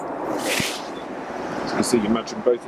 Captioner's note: object rattles